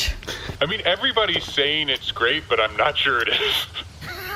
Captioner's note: laughing